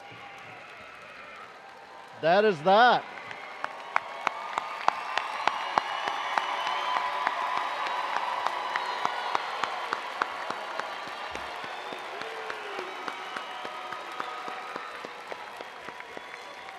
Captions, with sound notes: - That is that. (attendees applauding)